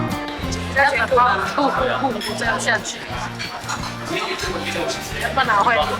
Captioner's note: laughs